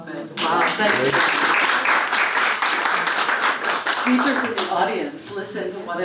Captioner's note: applause